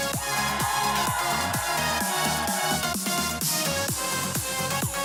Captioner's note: students cheering